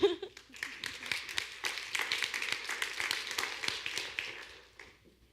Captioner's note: audience claps